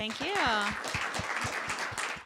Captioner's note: applause